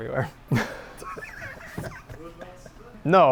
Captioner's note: laughs